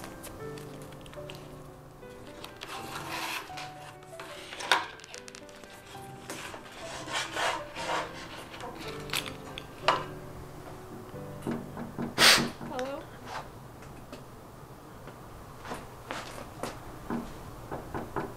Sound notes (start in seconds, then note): 0.0 gentle music continues; 11.3 knocks; 12.1 Eddie sniffs